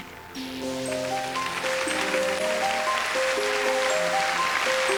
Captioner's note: applause